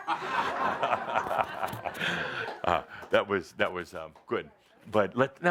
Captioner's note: chuckles